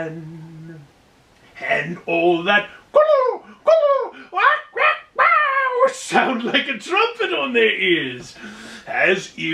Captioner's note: squawking noise